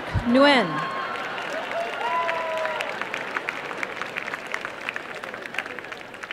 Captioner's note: applause